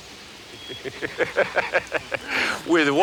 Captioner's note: Ignacio laughs